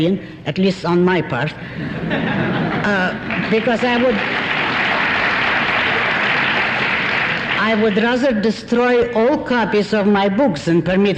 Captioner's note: applause